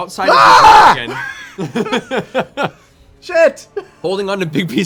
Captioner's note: screams